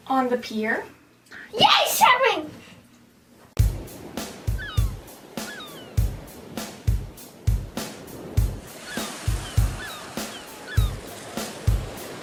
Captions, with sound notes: - On the pier. - Yes! Shopping! (rock music) (gulls squawking)